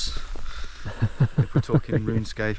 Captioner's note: laughing